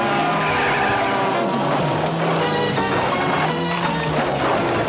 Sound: tires screeching

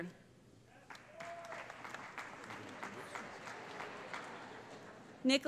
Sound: applause

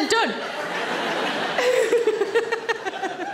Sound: audience laughs; Sarah laughs

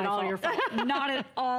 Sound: laughter

